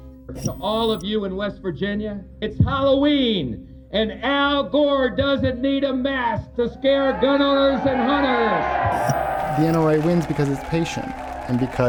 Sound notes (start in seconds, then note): 6.7 cheers, applause